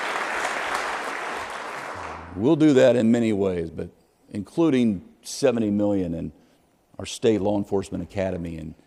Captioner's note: applause